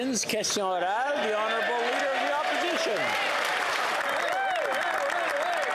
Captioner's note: some Applause